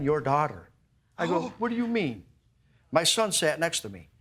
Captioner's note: gasps